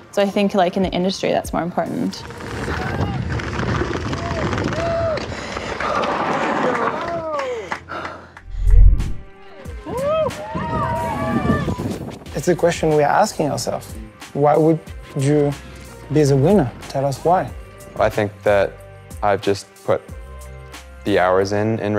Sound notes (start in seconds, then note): 2.1 tires crunching; 5.7 breathing heavily; 9.4 crowd cheering